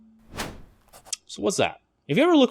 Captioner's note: air whooshing